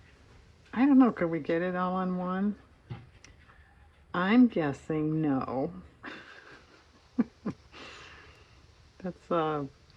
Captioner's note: laughs